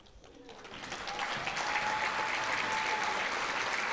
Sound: audience applauding

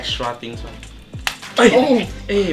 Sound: smack; moans

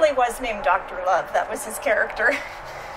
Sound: laughs

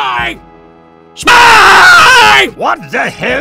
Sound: earrape

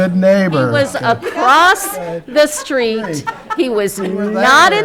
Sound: laughing

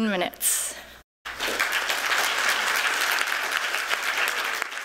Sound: applause

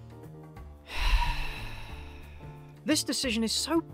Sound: sigh

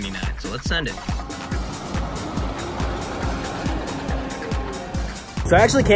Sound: ride noises, music

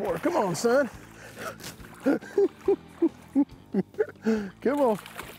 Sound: chuckling

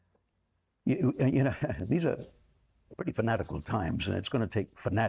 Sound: chuckles

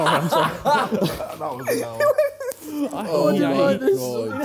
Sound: laughing

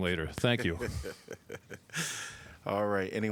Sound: laughter

